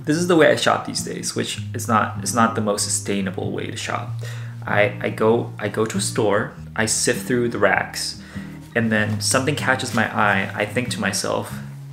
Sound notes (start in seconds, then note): none